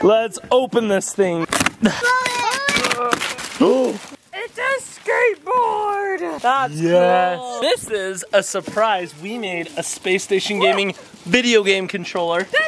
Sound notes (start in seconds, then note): 2.1 packaging ripping